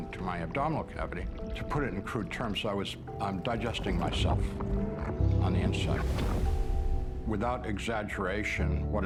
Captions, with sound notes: into my abdominal cavity. To put it in crude terms. I was digesting myself, on the inside. [liquid explosion] Without exaggeration,